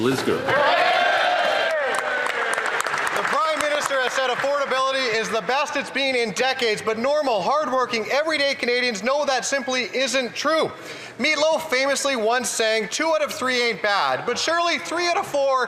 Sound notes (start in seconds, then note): 1.6 applause